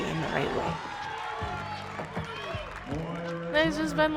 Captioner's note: spectators cheering